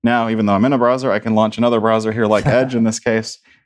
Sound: laughter

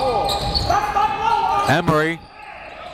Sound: yelling

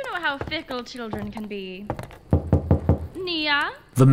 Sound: o.s., far-off through door

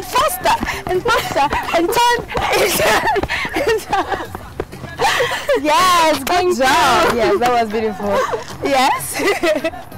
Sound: laughing

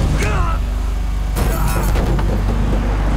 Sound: man grunts

